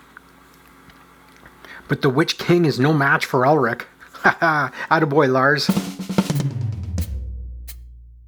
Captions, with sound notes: But the Witch King is no match for Ulrich! [laughs] Atta boy, Lars! [drum fill]